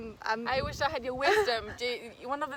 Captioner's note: Risos